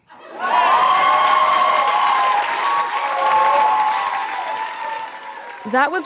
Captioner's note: audience laughing; audience cheering; audience clapping